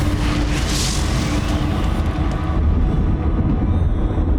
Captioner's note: flames exploding